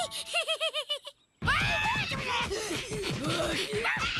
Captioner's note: Sierra Giggling; Sierra Grunting